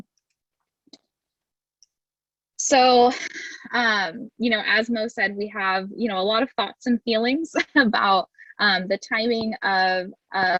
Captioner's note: laughter